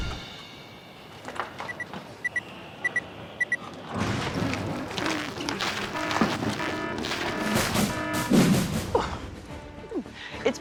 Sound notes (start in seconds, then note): 2.2 beeps; 5.9 alarm blares